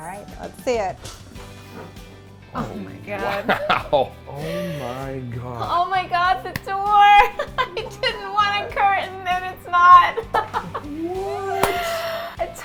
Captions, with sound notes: - Alright, let's see it. - Oh my God. - Oh wow. (chuckles) Oh my God. - Oh my God, the door! I didn't want a curtain, and it's not! (laughs)